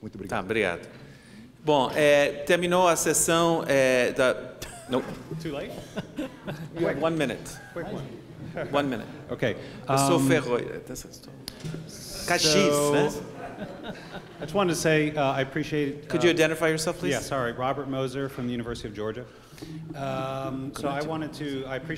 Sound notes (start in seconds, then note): 0.1 speaking portuguese; 10.1 speaking portuguese; 13.2 laughter